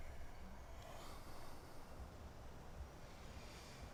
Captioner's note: sighs